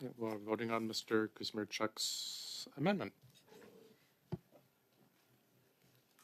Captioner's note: speaking French